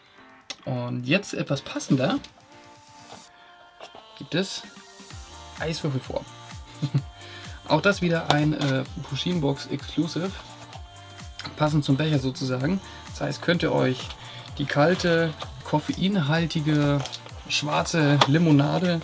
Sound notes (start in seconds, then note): 6.8 laughing